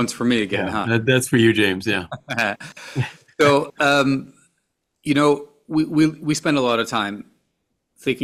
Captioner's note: laughter